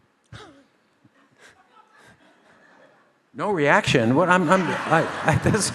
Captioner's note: laughs